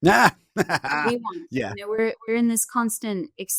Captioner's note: laughing